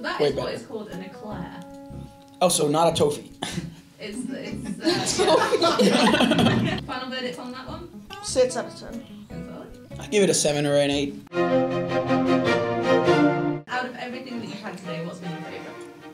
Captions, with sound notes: That is what is called an Eclair. Oh, so not a 'toe-fee'. 'Toe-fee' *laughing* Final verdict on that one? 6 out of 10. I give it a 7 or an 8. - Out of everything that you've had today, what's been your favourite?